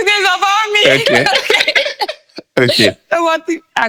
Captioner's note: laughing